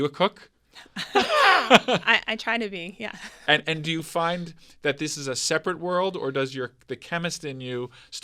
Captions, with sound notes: Are you a cook? (both laughing) - I try to be, yeah. - And do you find that this is a separate world, or does the chemist in you